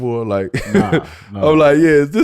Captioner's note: laughing